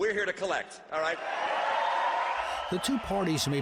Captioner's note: crowd applauds